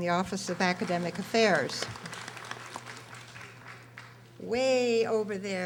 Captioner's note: audience applauding